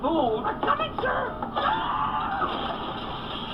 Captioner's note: screams; crash